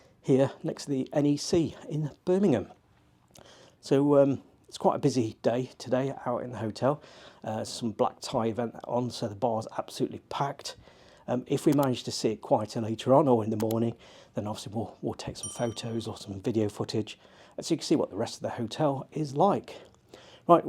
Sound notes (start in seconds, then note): 11.7 mouse clicking; 15.4 bell ringing